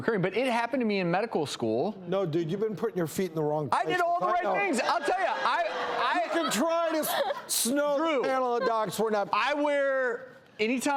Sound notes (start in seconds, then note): 4.6 audience laughter